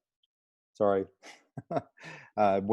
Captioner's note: laughter